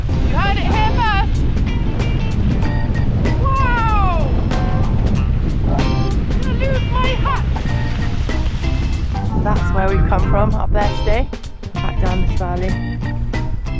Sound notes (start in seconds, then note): 8.0 wind